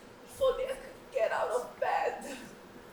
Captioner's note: none